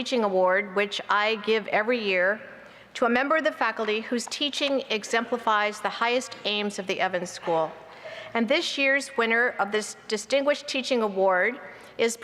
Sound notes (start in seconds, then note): none